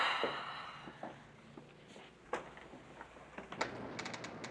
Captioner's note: Allison sighs